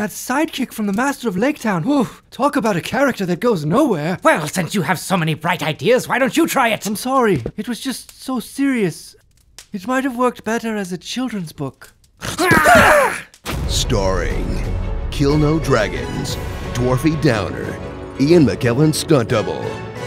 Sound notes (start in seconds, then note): 12.2 growls; 12.3 Frodo whimpers